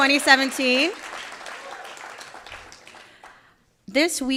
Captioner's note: audience applauding